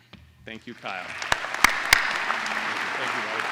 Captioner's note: applause